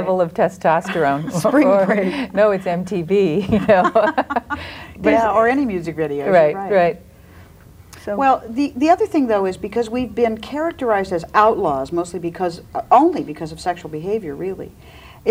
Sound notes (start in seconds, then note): 0.9 laughs; 4.1 laughs